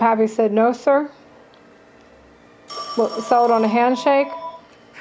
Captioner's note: phone rings